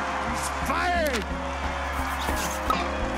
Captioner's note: cheering and applause